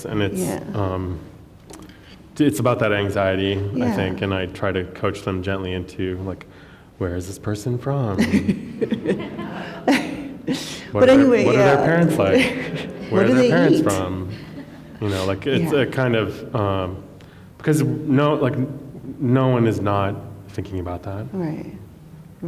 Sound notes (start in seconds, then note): 8.1 laughter